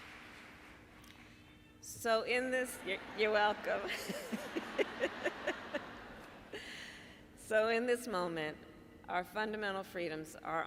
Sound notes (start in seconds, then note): 0.0 applause; 4.6 laughter